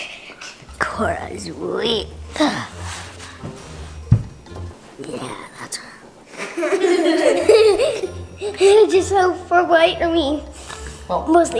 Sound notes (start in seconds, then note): 6.3 laughs